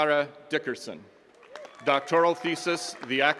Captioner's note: attendees cheering and clapping